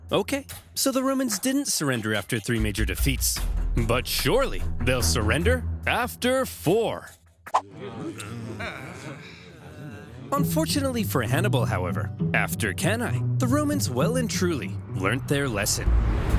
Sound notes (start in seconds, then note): 7.7 soldiers groaning